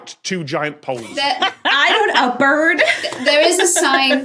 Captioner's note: cackles